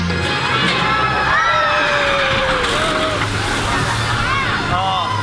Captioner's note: people screaming